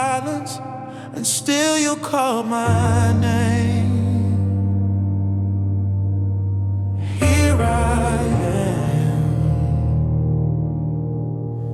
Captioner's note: echoed whisper